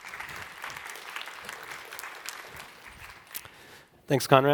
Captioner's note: applause